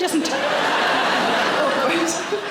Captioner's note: audience laughing